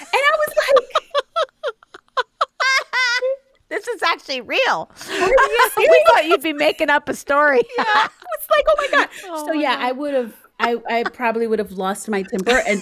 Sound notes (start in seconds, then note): 0.0 laughing